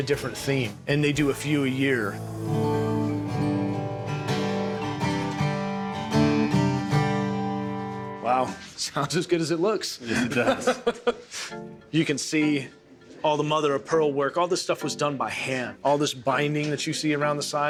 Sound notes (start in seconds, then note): 2.1 guitar music; 10.0 laughter